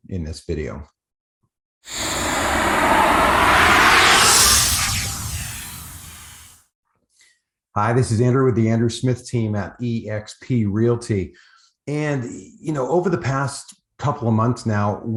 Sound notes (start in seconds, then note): 1.8 air whooshing